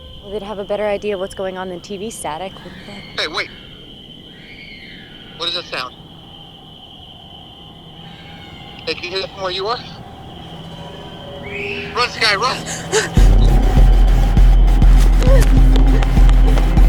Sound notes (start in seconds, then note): 3.0 distant screaming; 7.3 screaming; 11.5 screaming; 12.4 panting